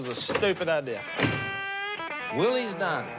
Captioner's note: door shuts